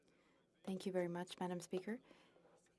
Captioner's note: speaking French